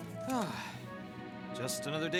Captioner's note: sigh